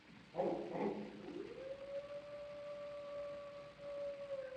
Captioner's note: dog barking and howling